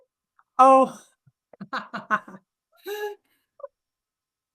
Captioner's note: laughter